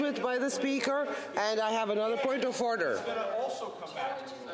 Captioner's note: off mic